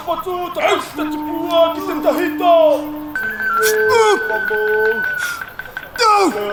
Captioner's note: chanting